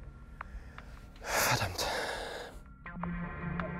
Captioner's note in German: seufzt; Geheimnisvolle Musik